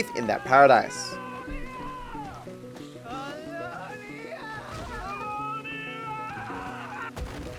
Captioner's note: Cultists shouting Chelonia